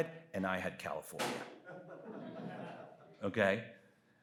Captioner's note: audience laughs